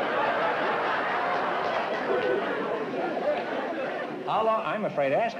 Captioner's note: laughter